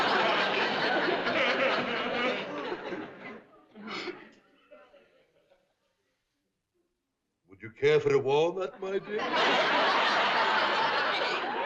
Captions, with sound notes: (ACCENTED VOICE) Would you care for a walnut, my dear?